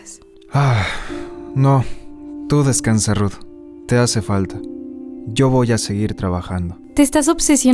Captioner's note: sigh